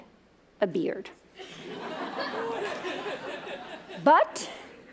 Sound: laughter

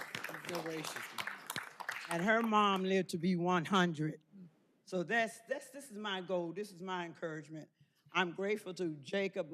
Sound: applause

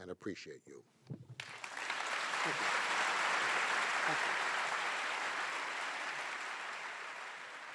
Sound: audience applause

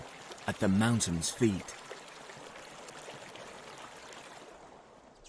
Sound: water running; bird chirps

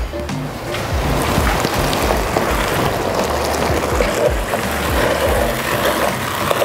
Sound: sizzling; spoon scraping

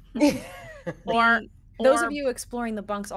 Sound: person laughing

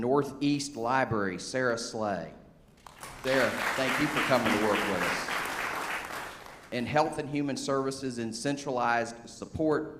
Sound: applause

